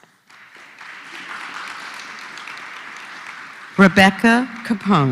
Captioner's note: applause